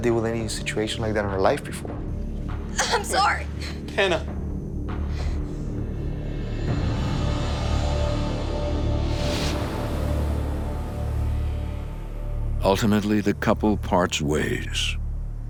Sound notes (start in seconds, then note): 2.2 crying